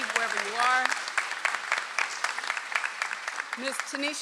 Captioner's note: audience applauds